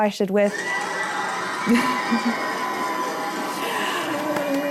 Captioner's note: cheering